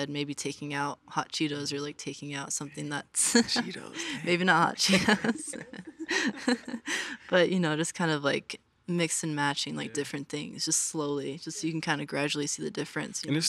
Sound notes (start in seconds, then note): 3.3 chuckles